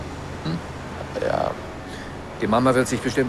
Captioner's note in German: zögernd